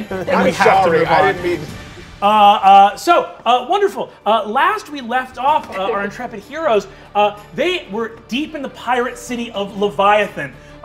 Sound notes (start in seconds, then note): none